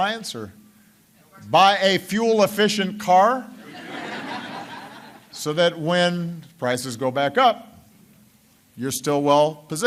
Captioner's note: laughter